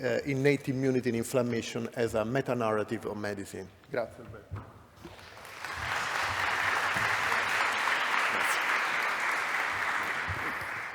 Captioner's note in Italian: Applauso